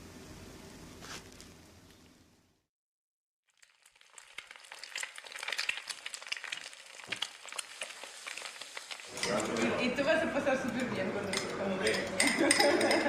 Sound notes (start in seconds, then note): 3.4 eggs sizzling; 8.9 woman speaking Spanish; 12.2 chuckles